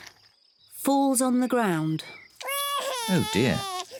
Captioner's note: cries